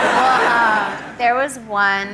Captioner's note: audience laughs